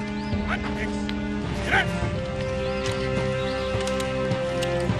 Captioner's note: soldier shouts